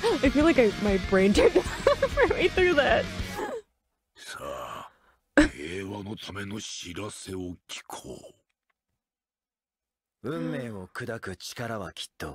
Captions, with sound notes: I feel like my brain (laughter drowns speech) (speaking in foreign language)